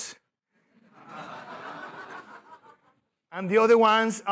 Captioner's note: laughter